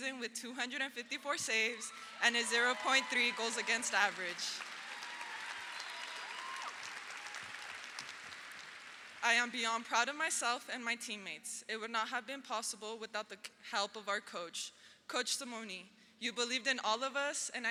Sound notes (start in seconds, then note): 4.3 audience applauds; 4.3 audience cheers